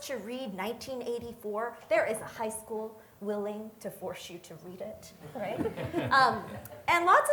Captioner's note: audience laughter